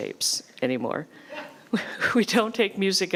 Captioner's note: laughs